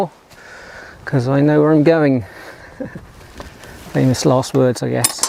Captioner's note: laugh